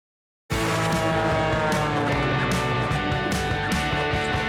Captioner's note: plane soaring